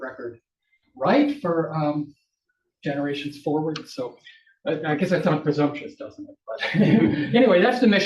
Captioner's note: audience laughs